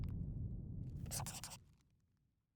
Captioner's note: scribbling